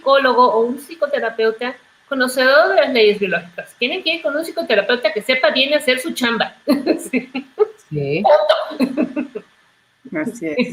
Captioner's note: laughs